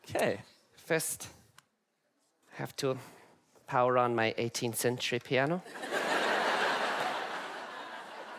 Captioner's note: audience laugh